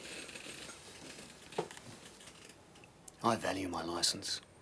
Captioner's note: chair creaks